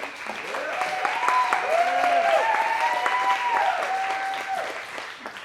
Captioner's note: cheering and clapping